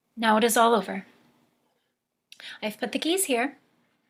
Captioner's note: none